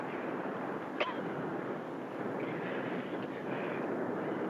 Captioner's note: coughs